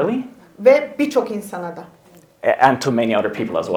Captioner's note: speaks in Turkish